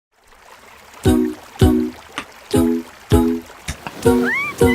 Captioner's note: sound of water